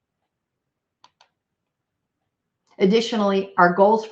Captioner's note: computer mouse clicks